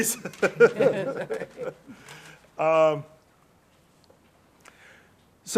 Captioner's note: laughing